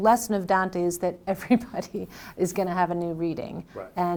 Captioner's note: laughs